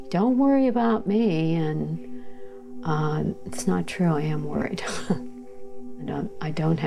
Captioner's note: chuckles